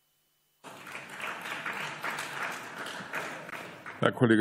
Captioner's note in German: Beifall